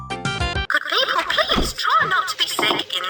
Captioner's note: voiceover